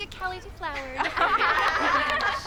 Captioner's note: girls laughing